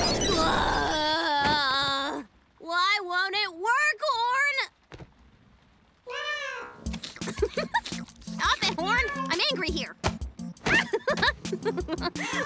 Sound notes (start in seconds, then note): 6.0 meows; 6.9 giggles; 10.6 giggling